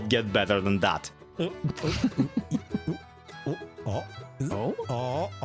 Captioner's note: giggles